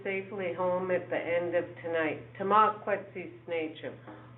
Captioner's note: speaking in foreign language